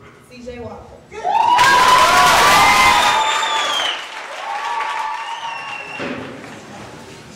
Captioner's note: audience applause